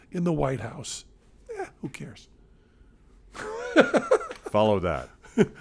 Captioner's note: laughs